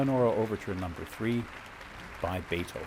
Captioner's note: applause